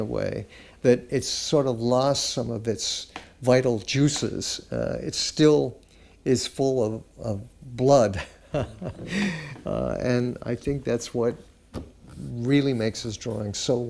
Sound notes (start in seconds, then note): 8.5 laughing